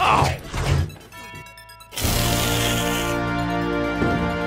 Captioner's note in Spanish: silbido